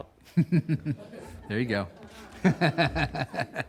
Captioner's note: laughing